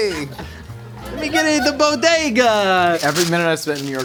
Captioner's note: crew member laughing